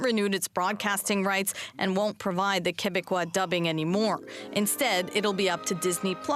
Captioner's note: speaking French